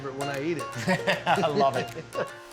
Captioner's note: laughs